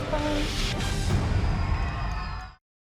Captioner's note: cheering, applause